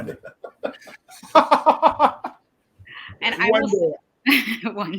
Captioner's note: laughing